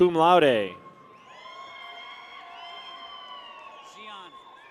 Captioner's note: people cheer